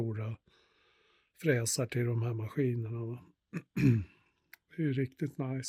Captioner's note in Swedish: harklar sig